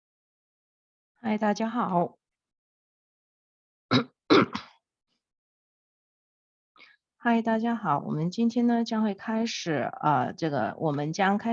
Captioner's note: Mandarin language